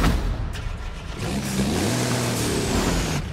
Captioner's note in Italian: Accensione motore